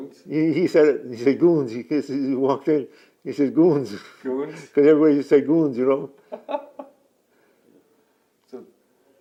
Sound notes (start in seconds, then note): 6.3 laughs